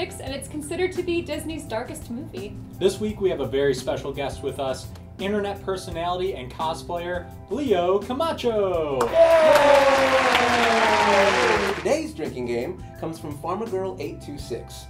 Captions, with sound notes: and it's considered to be Disney's darkest movie. This week, we have a very special guest with us. Internet personality and cosplayer, Leo Camacho! (cheering) Today's drinking game comes from PharmaGirl826: